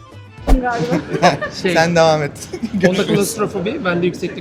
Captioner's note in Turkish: kahkaha